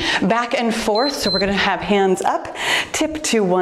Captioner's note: timer beeps